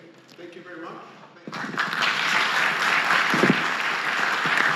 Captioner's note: applause